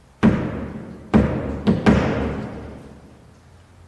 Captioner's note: loud knocking